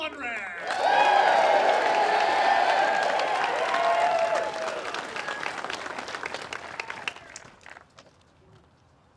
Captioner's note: applause